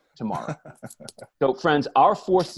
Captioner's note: laughs